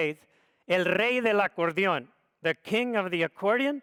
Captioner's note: speaks foreign language